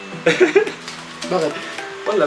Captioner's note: laughs